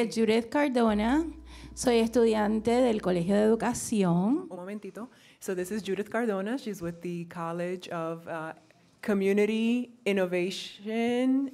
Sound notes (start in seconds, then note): 2.0 speaking in foreign language